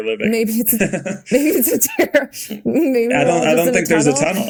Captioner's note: Bode laughing